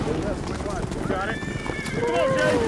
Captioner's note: horse neighs